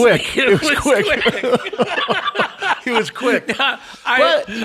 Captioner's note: both laughing